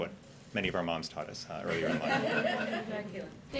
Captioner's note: laughter